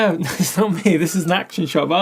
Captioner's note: laughs